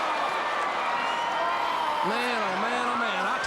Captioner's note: crowd cheering; Ric yelling